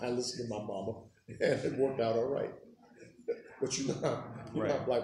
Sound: laughing

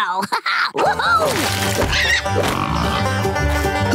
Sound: oinking; grunting

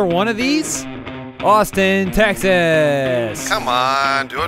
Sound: sarcastically

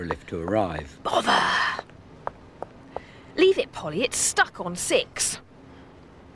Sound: footsteps

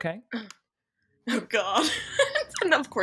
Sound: laughs

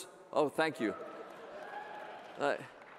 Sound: cheer in the audience

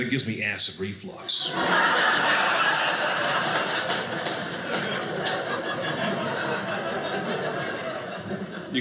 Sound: audience laughing

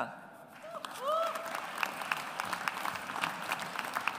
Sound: audience applauds

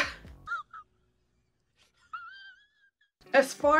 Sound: stifled laughter

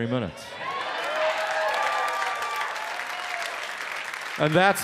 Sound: audience cheers

